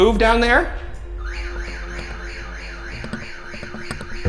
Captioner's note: alarm blares